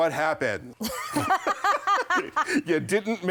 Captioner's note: both laugh